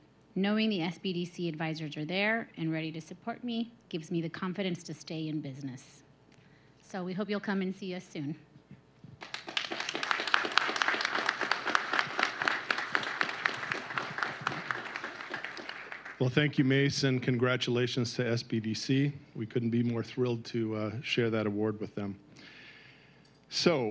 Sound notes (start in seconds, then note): 13.2 applause